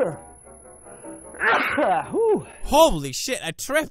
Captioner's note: sneezing